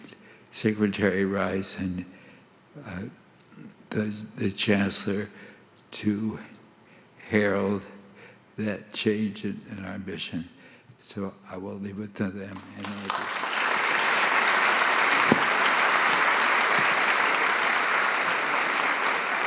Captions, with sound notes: than Secretary Rice and the chancellor to herald that change in our mission, so I will leave it to them and Andy. (audience applauding)